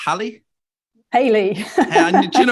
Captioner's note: laughs